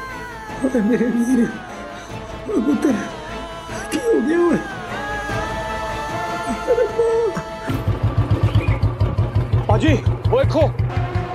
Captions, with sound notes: Oh, my Veer! What has happened? Oh god! [motorcycle revving] Bro, look!